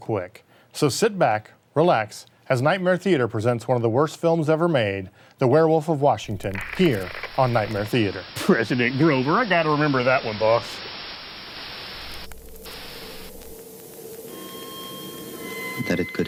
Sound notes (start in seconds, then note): 11.9 TV static fizzing; 14.8 eerie music